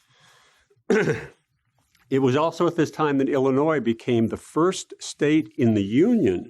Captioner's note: cough